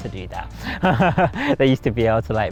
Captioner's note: laughs